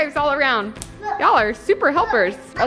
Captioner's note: slap